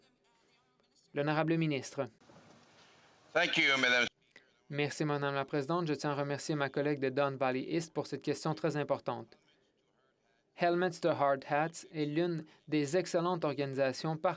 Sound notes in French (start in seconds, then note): 4.8 voix de l'interprète